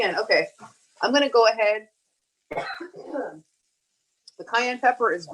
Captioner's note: coughs